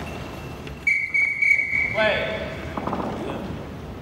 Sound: whistle blows 3 times

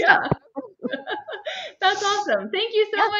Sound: both laughing

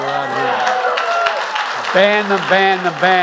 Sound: applause

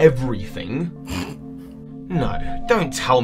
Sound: laughs

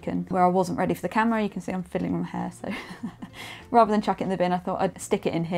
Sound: laughs

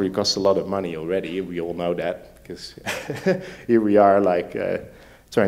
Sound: laughs

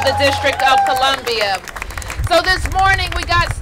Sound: applause

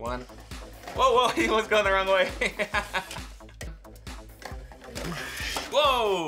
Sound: laughs

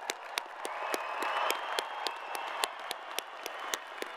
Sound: crowd applauding

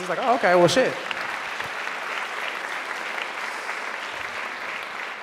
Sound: audience applause

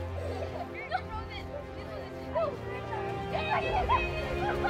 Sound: children playing

